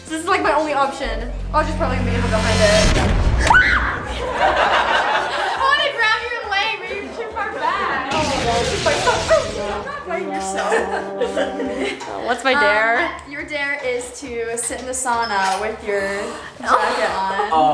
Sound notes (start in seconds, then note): 2.5 suspenseful music; 3.4 screams; 3.8 crowd laughs; 10.1 sad trombone womping; 11.7 laughs